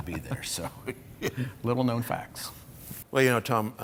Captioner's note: laughing